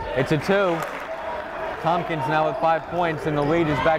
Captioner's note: clapping